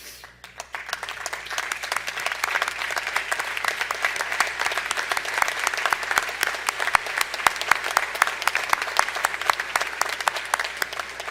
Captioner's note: applause